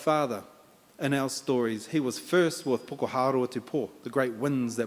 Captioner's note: in Maori